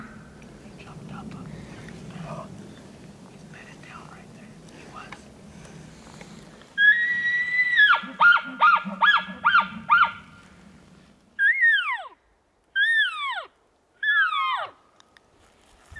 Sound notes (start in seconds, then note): 7.8 caller bugling